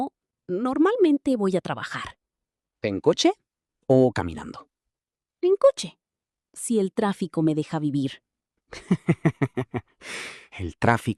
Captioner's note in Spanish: risas